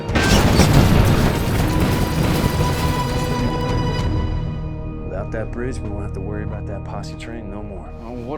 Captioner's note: explosion